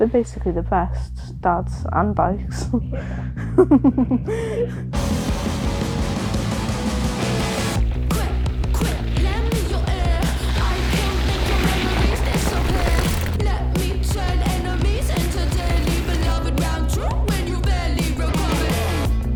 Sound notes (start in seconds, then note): 3.3 giggling